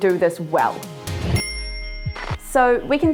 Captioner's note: dinging